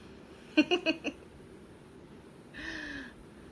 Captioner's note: laughing